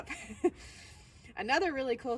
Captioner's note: laughs